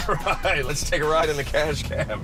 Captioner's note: chuckling